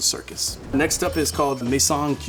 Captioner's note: bell dinging